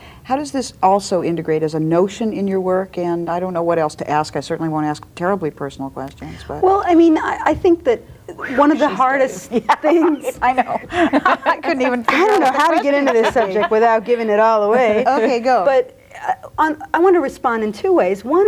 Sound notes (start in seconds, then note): 9.9 laughs